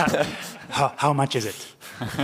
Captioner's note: laughter